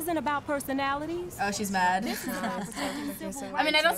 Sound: laughing

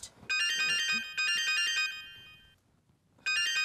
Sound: phone ringing

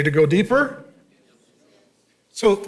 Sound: congregation murmuring

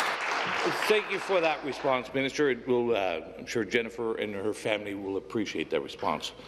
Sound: applause

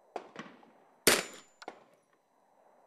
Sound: bang

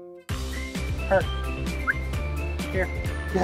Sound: whistle

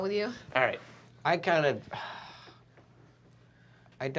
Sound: sighs

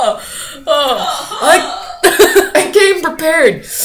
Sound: laughs; laugh from background

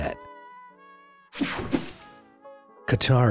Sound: swooshes

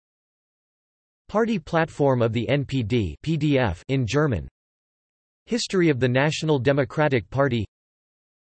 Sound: in German

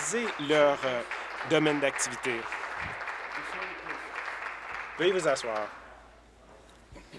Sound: applause

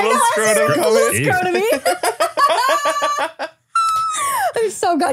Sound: laugh

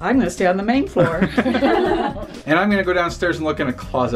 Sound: laughter

